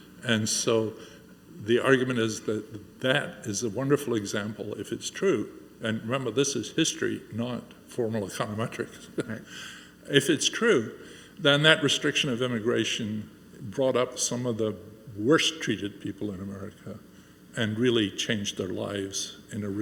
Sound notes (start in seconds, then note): 8.9 Angus chuckles